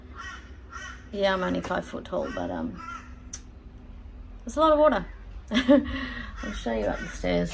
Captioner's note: scoffs